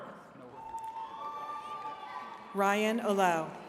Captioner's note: attendees cheering